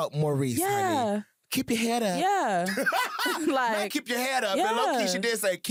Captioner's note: laughs